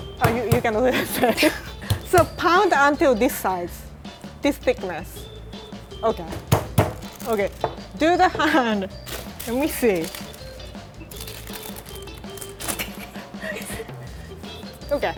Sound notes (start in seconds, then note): 6.2 pounding; 11.1 crinkling paper; 12.6 laughing